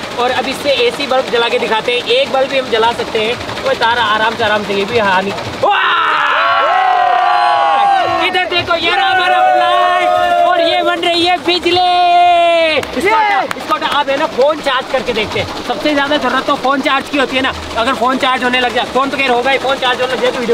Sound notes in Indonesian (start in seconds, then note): 5.6 Teriakan; 13.0 Teriakan